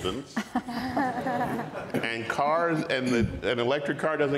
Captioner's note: audience and panel laughs